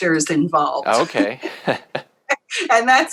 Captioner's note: both laugh